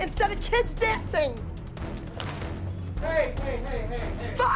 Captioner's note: glass breaks